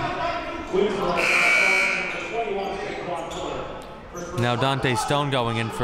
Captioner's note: buzzer ringing